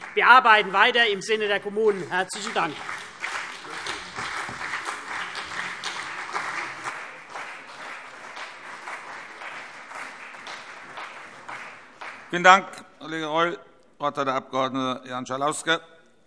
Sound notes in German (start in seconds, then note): 3.1 Beifall CDU und BÜNDNIS 90/DIE GRÜNEN